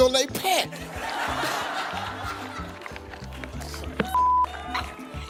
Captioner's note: audience laughing